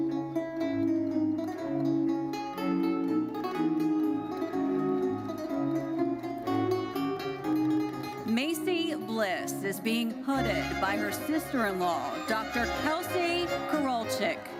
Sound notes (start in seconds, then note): 1.7 bright lively music continues; 3.9 audience cheering